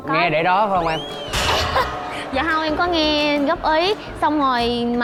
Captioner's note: laughing